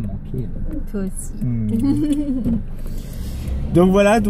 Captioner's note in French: Rire amoureux